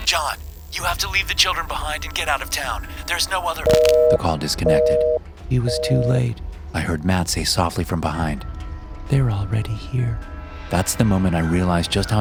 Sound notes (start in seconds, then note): 5.6 beeping